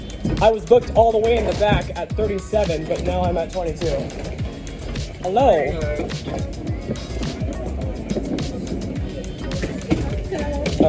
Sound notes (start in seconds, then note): 5.2 excitedly